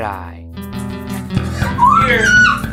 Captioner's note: screaming